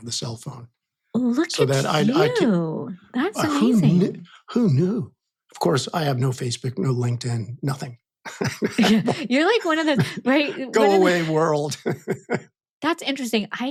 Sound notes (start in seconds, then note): 8.2 laughs